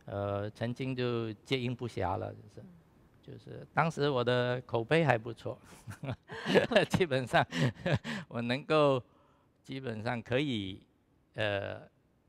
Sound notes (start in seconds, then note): 6.3 laughs